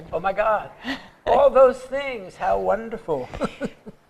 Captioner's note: laughter